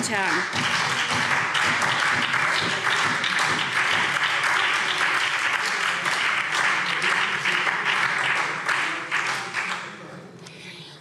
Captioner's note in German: Beifall SPD und Freie Demokraten